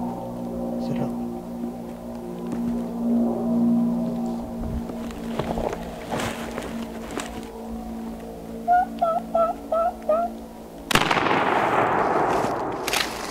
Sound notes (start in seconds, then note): 0.0 airplane overhead; 10.9 gunshot